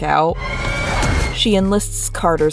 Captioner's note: screaming